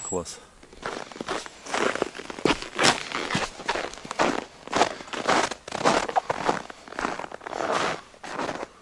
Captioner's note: footsteps in the snow